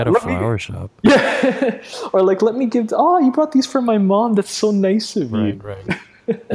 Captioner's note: laughs